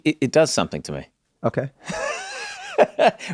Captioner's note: laughs